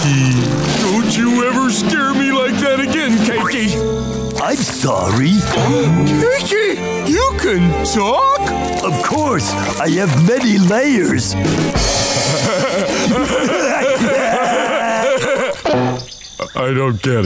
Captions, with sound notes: Don't you ever scare me like that again, Cakey. I'm sorry. [gasping] Cakey, you can talk? Of course, I have many layers. [rimshot playing] [laughing] I don't get it.